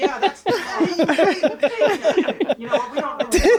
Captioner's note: laughter